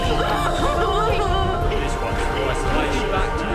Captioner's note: crying; dramatic music